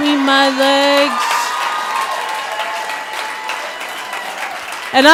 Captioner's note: audience applauds